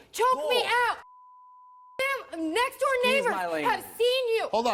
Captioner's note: beep